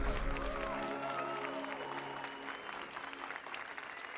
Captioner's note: applause and cheers